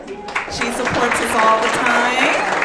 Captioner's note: audience clapping